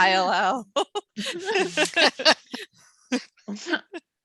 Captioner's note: laughs